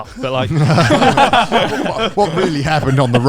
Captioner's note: all laughing loudly